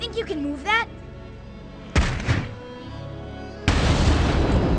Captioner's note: Sounds of Haru throwing his back out